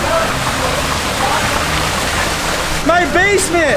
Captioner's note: water splashing